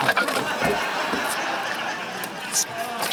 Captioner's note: laughter